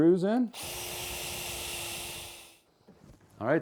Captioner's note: screw gun